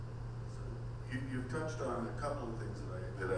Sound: voiceover

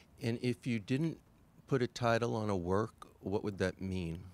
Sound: voiceover

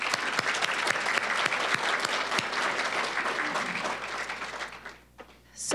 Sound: applause

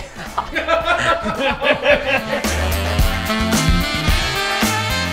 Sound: laughter

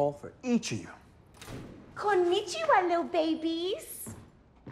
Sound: door opens

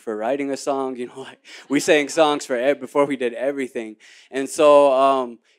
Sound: laughs

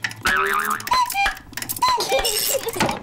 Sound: clock chimes; laughs

